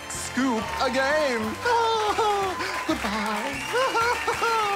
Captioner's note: laughs